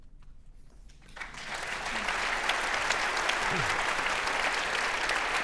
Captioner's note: audience applauding